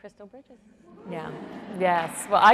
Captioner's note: audience cheering